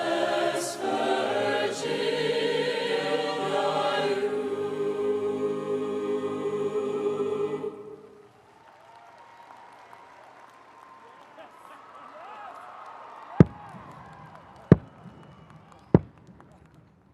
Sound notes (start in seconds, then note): 8.2 audience applauds; 13.7 mace thumps